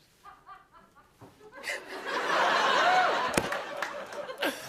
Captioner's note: laughter